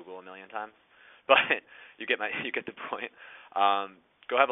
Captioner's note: chuckles